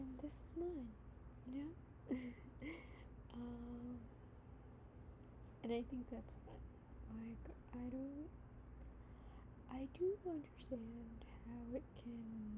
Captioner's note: laughs